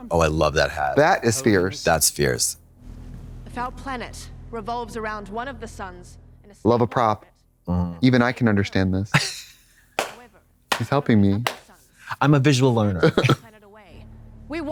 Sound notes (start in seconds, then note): 10.0 Katya fizzles and claps; 12.9 Trixie chuckles